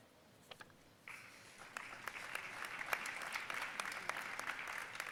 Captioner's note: audience applauding